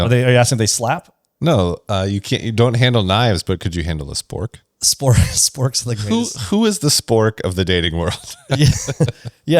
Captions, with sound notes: -Are you, are you asking if they slap? -No. Uh, you can't, you don't handle -knives, but could you handle a spork? -Spor- [laughs] sporks, like race? Who, who is the spork of the dating world? [laughs]